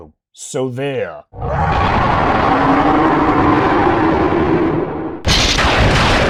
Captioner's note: rooooooaaaaaaaarrrrrr!!!